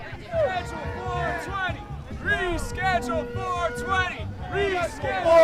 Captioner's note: people chanting